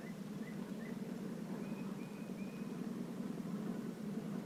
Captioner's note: engine sounds approaching